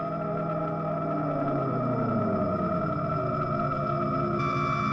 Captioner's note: strange modulating